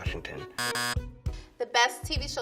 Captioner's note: buzzer sounds